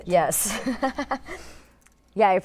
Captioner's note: laughs